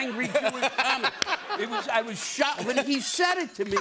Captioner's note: laughter